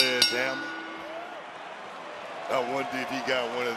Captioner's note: bell rings